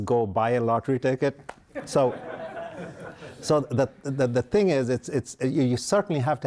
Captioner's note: laughter